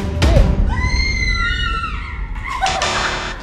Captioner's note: screams; laughs